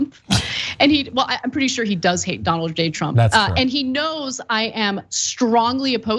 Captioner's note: laugh